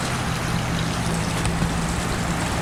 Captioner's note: footsteps